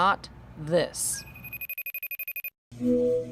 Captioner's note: telephone ringing